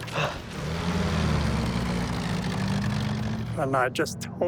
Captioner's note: Jeep engines rattling